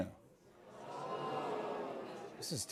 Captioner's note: audience oohs